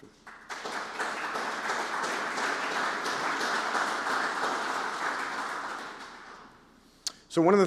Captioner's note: applause